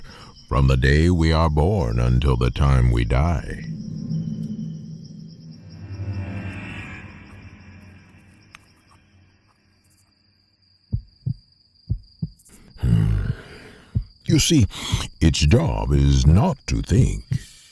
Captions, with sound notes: from the day we are born until the time we die. (heart beating) You see, its job is not to think,